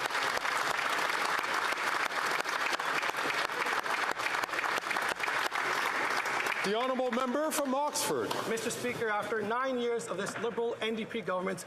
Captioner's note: applause